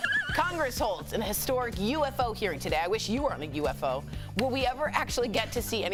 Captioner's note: laughter